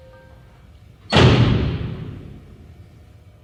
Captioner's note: door slams shut